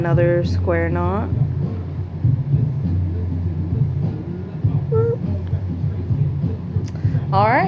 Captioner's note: boooooooop